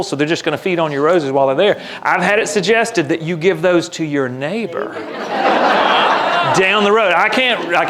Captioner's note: laughter